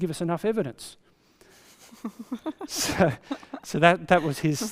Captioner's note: laughs